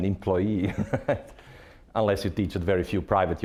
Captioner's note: laughing